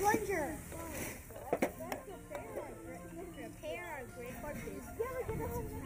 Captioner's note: children chatting and laughing